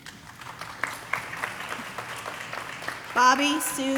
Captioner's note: audience applauding